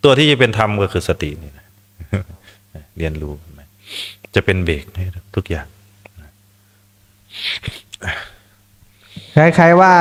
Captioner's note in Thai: เสียงสูดหายใจ